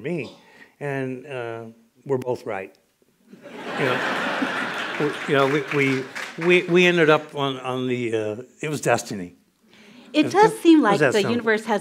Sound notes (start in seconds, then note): 3.3 laughter